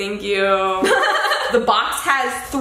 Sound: laughs

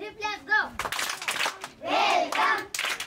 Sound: claps

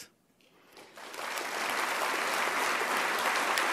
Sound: applause

